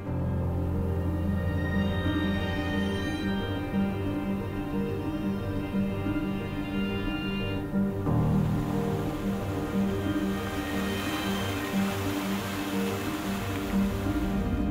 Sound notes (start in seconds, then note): 0.2 gentle music; 8.1 water splashing